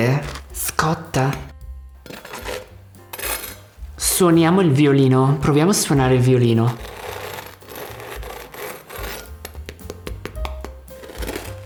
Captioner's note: speaking italian